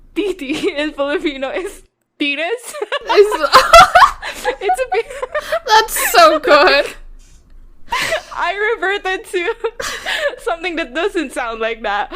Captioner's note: both laughing